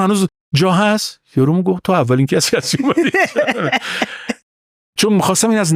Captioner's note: laughs